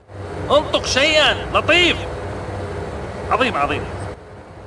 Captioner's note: speaking Arabic